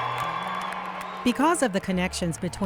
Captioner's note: cheering